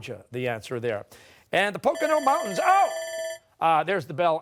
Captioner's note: bell ringing